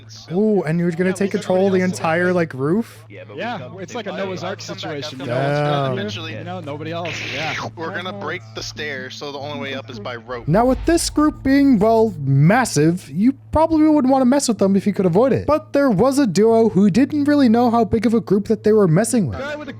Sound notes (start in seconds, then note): 3.4 chatter